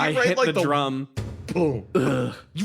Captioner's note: thump